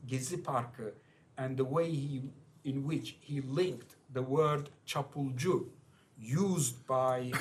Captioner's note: non-english